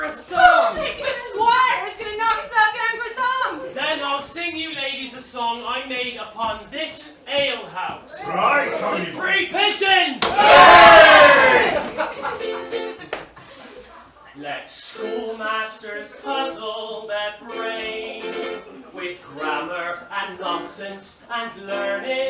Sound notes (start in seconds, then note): 10.2 cheering